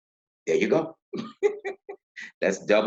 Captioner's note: laughing